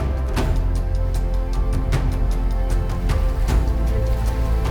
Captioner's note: water flowing